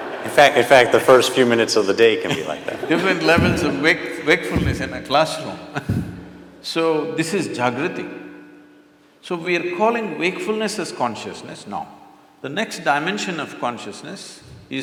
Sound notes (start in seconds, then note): 0.0 laughter; 7.2 laughs